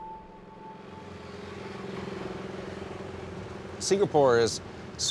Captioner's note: motorbike engine